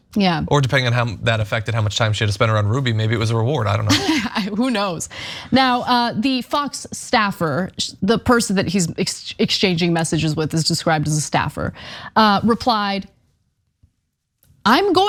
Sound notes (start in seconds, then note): 3.7 laugh